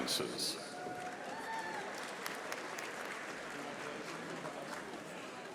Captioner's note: audience applauding